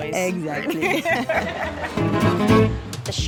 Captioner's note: both laugh